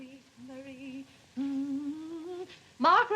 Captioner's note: hums